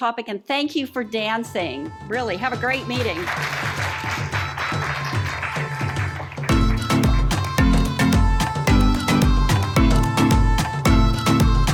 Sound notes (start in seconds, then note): 2.7 applause; 6.5 closing music